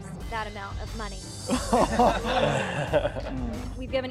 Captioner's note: all laughing